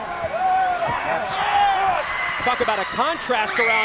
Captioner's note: crowd cheering